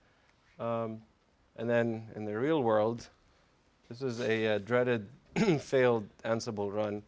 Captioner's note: cough